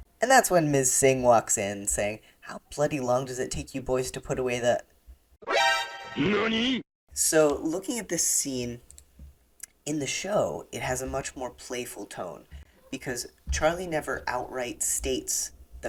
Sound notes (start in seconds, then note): 5.4 surprised sound